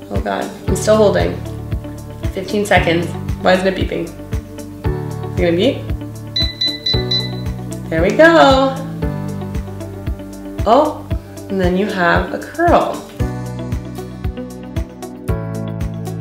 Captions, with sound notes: Oh god, I'm still holding. 15 seconds. Why isn't it beeping? You gonna beep? (machine beeps) There we go. Oh, and then you have a curl. (upbeat music)